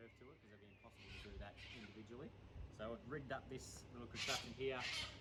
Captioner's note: squawk